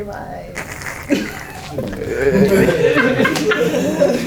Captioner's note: more giggles